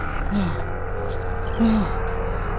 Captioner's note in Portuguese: O SPIDER grita